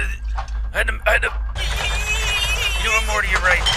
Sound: frustration

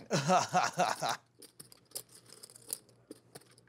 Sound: laughing

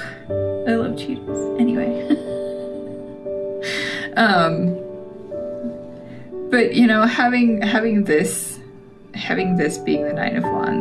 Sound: laugh

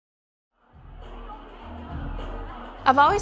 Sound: crowd chattering

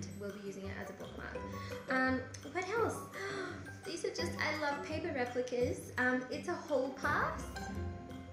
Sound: gasps

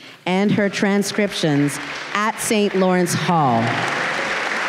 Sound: audience applause and cheer

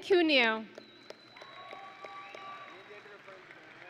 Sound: audience and graduates cheering

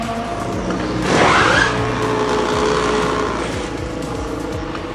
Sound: machines whirring

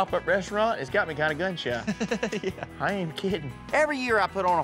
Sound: chuckling

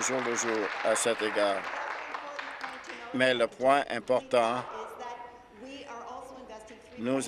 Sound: applause

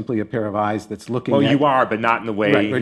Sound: laughing

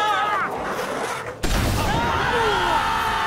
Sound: blam!

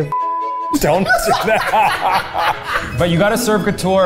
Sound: laughing

